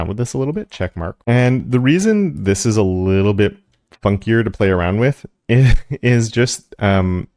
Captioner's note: laugh